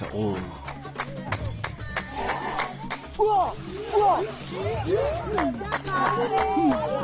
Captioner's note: hands clapping; men hollering